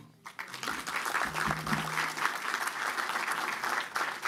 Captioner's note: applause